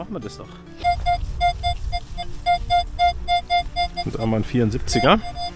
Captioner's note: squeaks